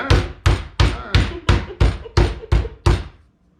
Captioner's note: thudding